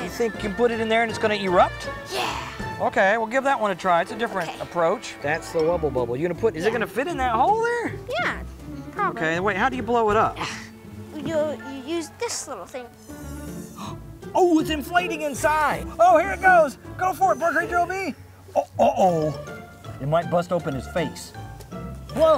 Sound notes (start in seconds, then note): 12.7 blowing